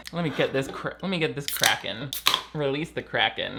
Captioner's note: can popping